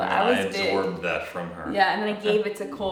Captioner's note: chuckles